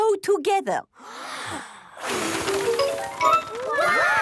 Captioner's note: big breath and blow